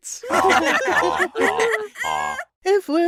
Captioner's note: jury laughing